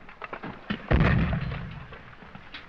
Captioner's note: explosion